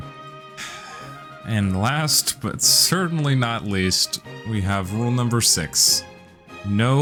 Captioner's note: sighs